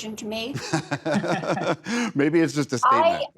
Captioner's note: laughing